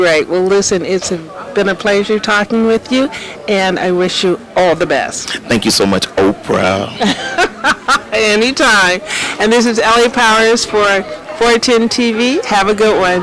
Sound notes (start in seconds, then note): 6.9 laughter